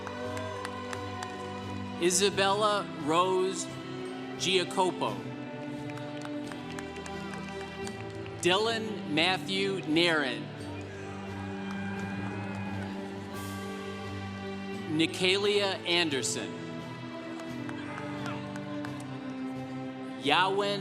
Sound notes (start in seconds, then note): 0.0 congregation cheering; 5.5 congregation applauding; 10.6 congregation cheering; 17.5 congregation cheering